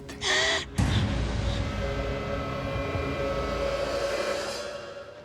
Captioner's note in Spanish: Sollozos